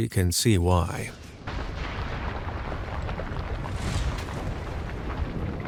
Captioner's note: bomb blasting